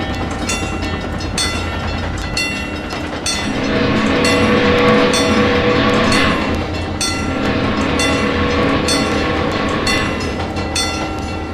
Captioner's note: MEC J Class whistle, wig wag ringing